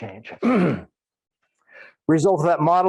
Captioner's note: clears throat